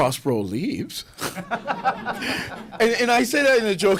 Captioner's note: laughter